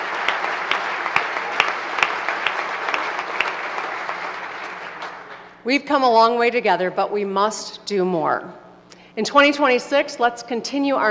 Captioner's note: applause